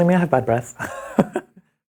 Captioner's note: laughs